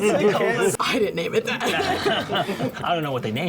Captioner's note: laughter